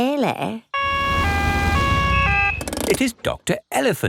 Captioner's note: siren wails